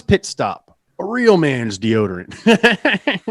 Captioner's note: laughs